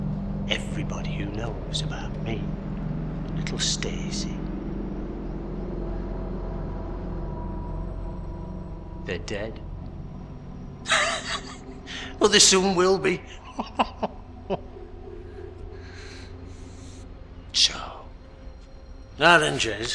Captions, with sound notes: Everybody who knows about me and little Stacey, (sinister music) they're dead. (Terry Slade laughing) Or they soon will be. (Terry Slade laughing) So, now then Jez,